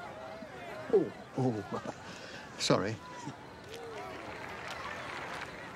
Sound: chuckles

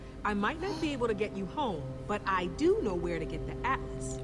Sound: Sabrina gasps

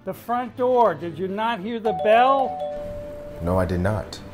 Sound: door bell ringing

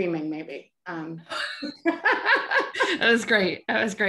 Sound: laughing

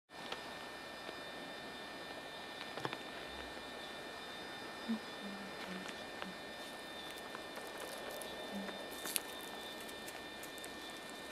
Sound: humming

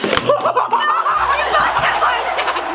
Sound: laughing

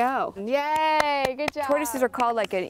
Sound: clapping

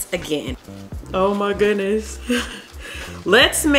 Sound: chuckles

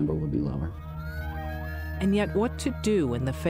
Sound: police sirens

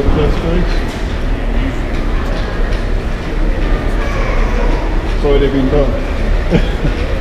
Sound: laugh

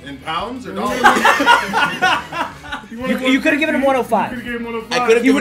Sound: laugh

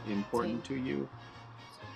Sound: in Spanish

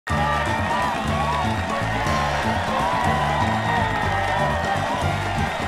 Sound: audience cheers

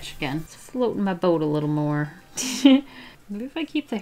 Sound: giggles

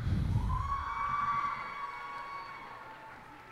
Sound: cheers and applause

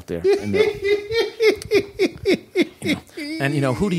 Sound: laughter

